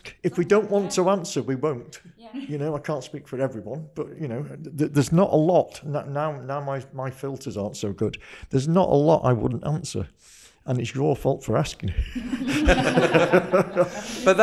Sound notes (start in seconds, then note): 12.0 guests laugh; 12.0 laughs